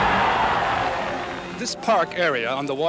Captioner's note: cheering